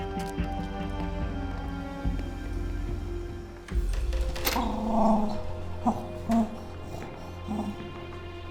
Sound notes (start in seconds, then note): 4.5 growls